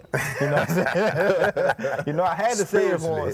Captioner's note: group laughing